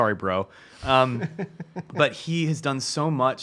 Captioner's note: laughs